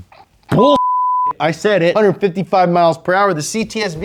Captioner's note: beep